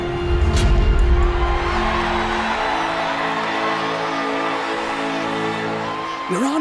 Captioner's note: cheering